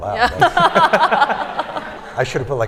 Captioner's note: laughter